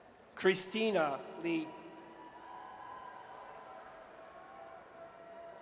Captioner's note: audience cheers